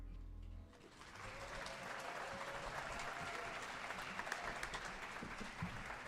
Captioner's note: audience applauding and cheering